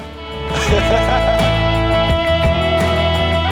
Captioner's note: laughs